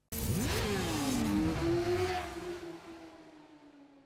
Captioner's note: motorcycles revving